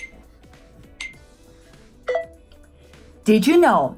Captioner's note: countdown beeps